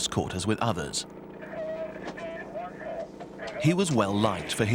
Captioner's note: muffled radio voice